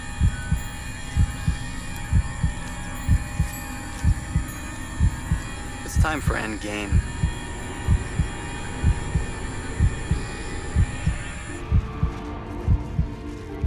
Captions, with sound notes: - Okay. - Come on. We gotta go. (heart beating) (tense music)